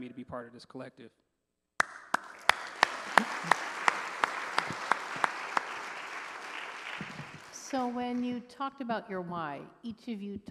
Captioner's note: applause